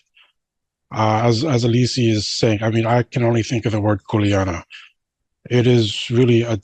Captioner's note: foreign language 00:53:06